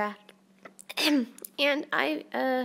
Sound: clears throat

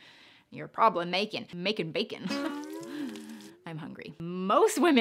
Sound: giggles

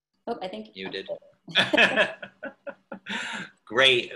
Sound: laughter

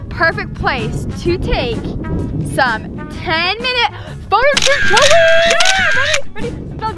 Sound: cheering

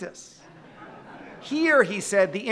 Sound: audience laughing

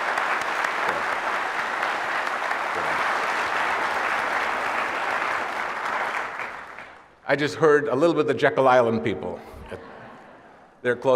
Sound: laughter

